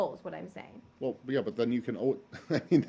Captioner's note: laughter